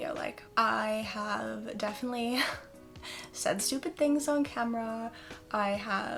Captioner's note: chuckle